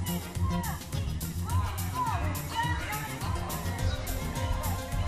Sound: indistinct chatter

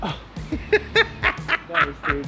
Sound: laughts

